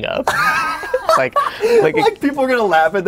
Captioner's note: both laugh